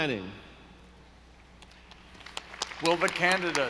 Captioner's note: audience applauding